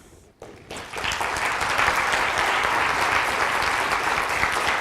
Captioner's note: audience applauds